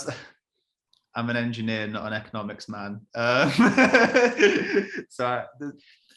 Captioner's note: laughs